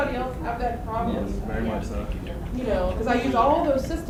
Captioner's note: voiceover